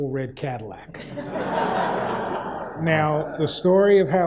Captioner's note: audience laughs